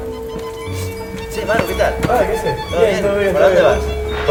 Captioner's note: with Argentinean accent